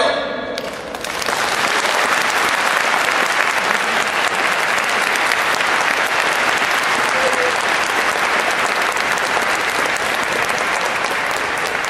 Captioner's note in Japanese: 拍手